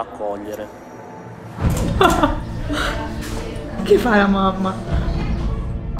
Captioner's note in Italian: risata